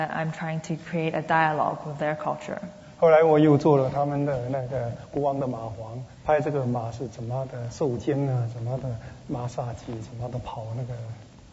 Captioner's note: speaking Mandarin; speaking Mandarin